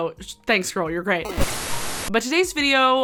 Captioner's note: screen buzzing